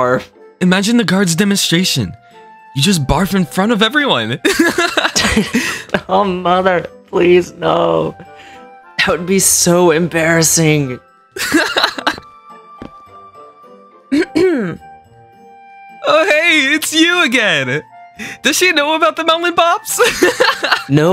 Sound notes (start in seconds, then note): 4.5 laughs; 11.4 laughs; 14.1 coughs; 20.1 laughs